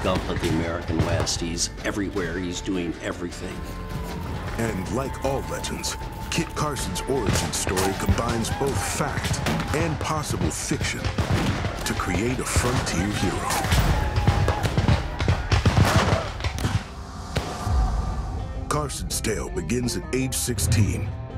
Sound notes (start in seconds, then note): 16.8 gunfire